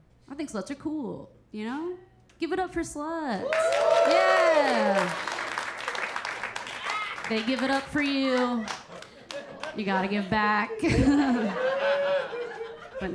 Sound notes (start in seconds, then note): 3.4 audience applauding and cheering; 10.7 Keira chuckling; 10.9 audience laughing